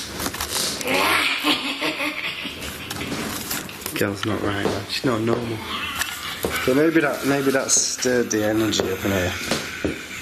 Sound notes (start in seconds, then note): 0.9 cackles